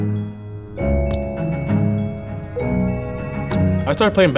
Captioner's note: shoe squeaking